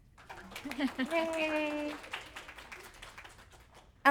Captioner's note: applause